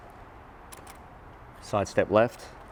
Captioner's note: clicking